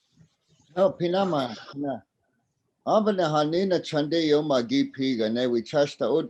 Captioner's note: speaking in a native language